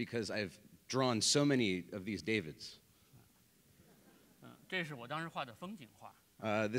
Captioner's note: speaking in Chinese